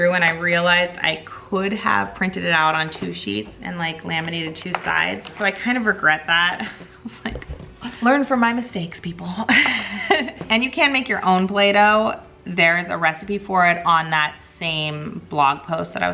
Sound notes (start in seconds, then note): 9.5 chuckling